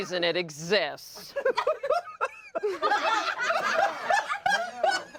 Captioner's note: everyone laughs